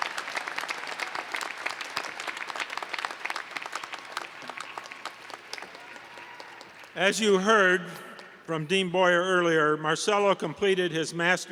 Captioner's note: applause